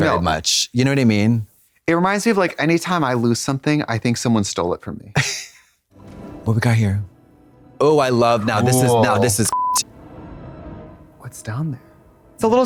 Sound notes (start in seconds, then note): 5.2 Katya snickers; 9.5 beep; 9.8 mysterious music